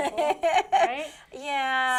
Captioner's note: laughs